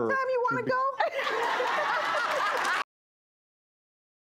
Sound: laughing

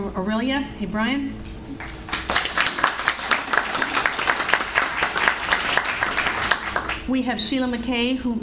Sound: audience Applauds

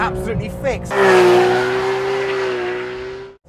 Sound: gt3 engine

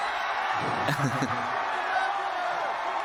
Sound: laughter

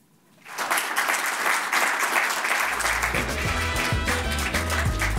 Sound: audience applauding; upbeat music

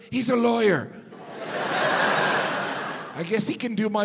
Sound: audience laughs

